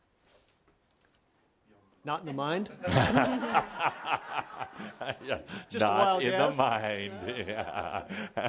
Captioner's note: Adamus laughs